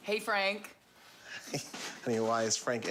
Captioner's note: chuckles nervously